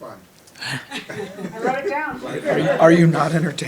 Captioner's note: audience laughing